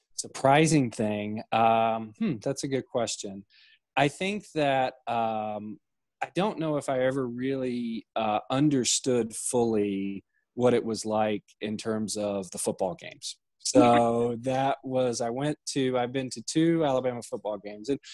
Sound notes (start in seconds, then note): 13.8 laughing